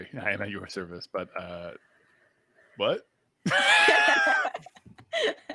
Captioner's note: laughs